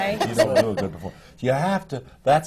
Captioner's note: laughter